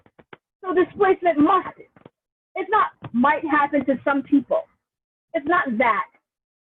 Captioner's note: audio distortion